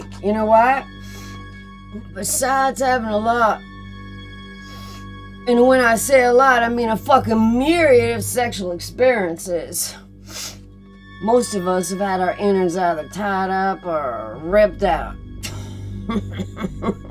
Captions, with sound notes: You know why? (suspenseful music) Besides having a lot... (sniffs) and when I say a lot, I mean a fucking myriad of sexual experiences, most of us have had our innards either tied up or ripped out. (laughing)